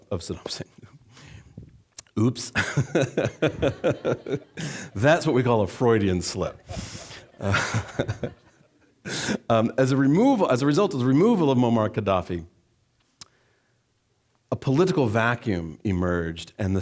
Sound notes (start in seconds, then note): 2.5 chuckling; 2.6 laughing; 2.6 audience laughing; 6.4 laughing